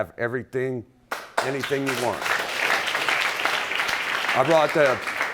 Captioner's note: audience clapping